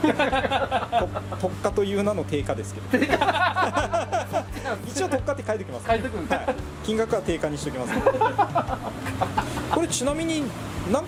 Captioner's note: laugh